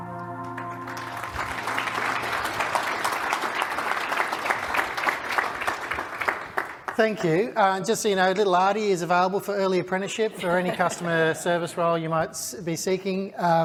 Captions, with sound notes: (audience applauds) - Thank you. Just so you know, little Arty is available for early apprenticeship for any customer service role you might be seeking.